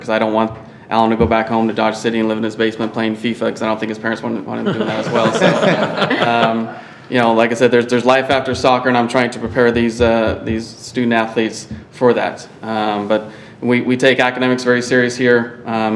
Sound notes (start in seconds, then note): 4.6 audience laughs